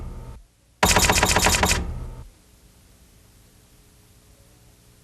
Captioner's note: typewriter clacking